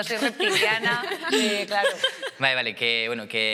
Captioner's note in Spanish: Risas